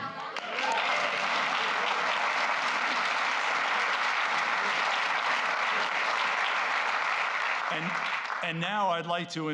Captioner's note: applause